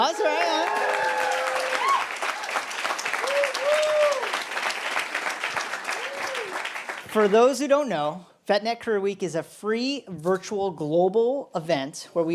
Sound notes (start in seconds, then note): 0.0 applause; 3.2 cheering